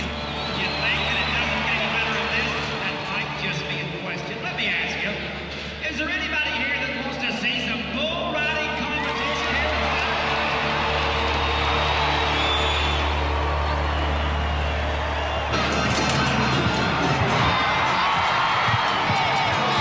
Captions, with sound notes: You think that it doesn’t get any better than this. Let me ask ya, is there anybody here that wants to see some bull riding competition here? [crowd cheers] [music over loudspeaker]